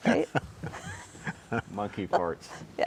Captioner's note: chuckling